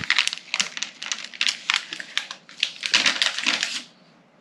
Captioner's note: plastic bag rustles